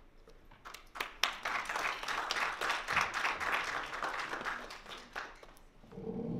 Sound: applause

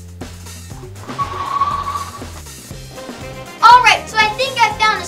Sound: air whooshing

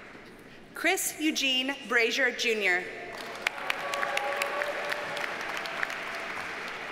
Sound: audience cheers and applauds

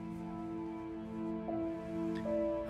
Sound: none

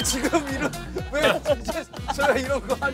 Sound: laughing out loud

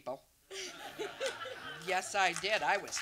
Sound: and audience laughs

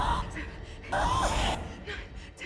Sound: Zara screaming

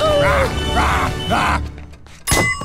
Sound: screaming; beeping; barking

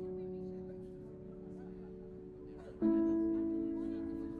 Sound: crowd chattering

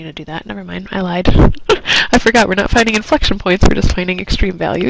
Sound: laugh

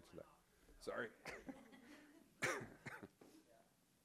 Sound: laughs

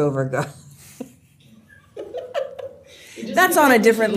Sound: laughter

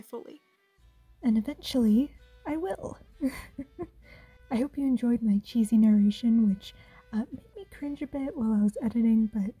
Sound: chuckle

